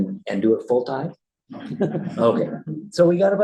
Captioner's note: laughter